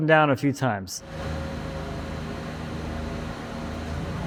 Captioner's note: engine roaring